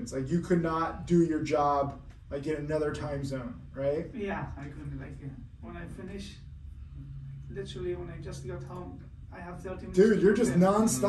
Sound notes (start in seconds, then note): none